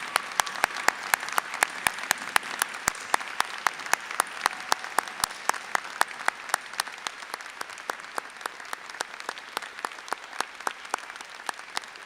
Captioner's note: applause and cheers